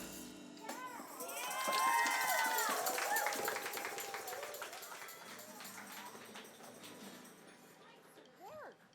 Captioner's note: applause